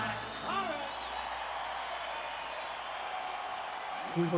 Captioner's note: crowd cheering